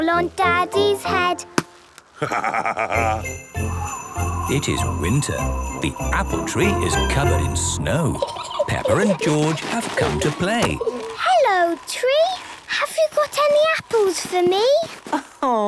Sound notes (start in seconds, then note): 2.2 laughing; 3.9 wind blowing; 7.9 kids giggling